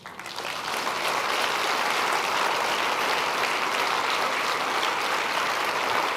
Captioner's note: applause